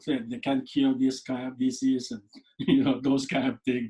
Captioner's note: laughs